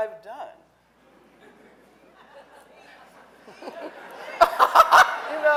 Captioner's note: audience laughing